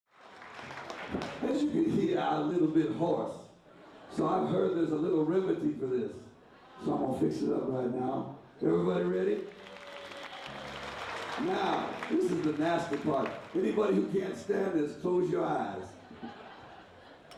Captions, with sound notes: [applause] As you can see I'm a little bit hoarse. So I've heard there's a little remedy for this. So I'm gonna fix it up right now. Everybody ready? [audience claps] Now this is the nasty part. Anybody who can't stand this close your eyes.